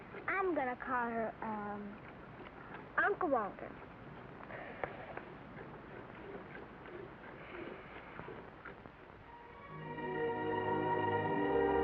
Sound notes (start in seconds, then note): 4.8 squirting sound; 9.3 soft upbeat music